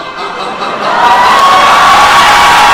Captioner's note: laughs